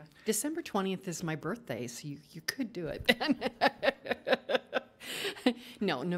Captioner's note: laughs